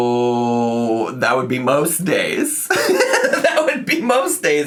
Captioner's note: laughs